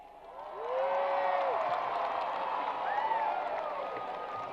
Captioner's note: crowd applause